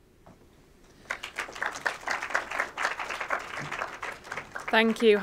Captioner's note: audience applauds